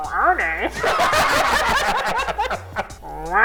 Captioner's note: hysterical laughter; boing sound